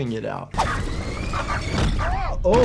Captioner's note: wind whooshing; feet thud